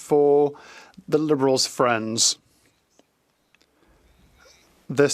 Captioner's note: speaking French